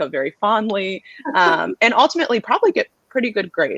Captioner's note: laughter